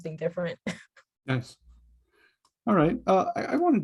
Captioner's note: chuckles